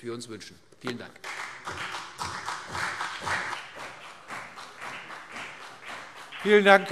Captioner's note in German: Beifall CDU und BÜNDNIS 90/DIE GRÜNEN